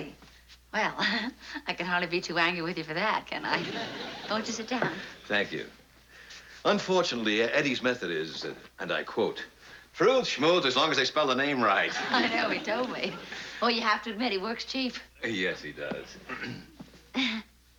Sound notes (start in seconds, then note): 0.6 laughs; 15.2 laughs; 16.2 clears throat